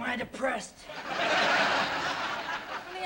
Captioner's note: laughter